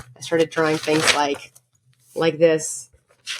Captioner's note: paper crinkles; paper crinkles